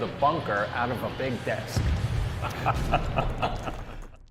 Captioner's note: laughing